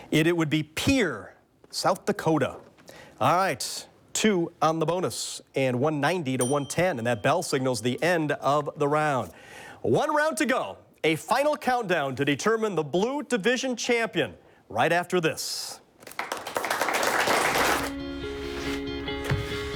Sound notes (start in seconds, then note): 6.4 bell dings; 16.0 audience applauds